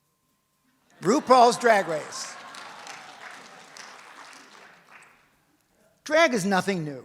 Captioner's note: audience hollers and applauds